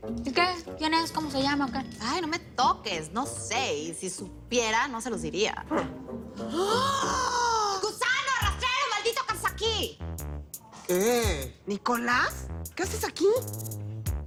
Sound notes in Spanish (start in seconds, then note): 6.6 Exclamación